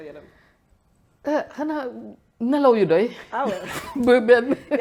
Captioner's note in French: rires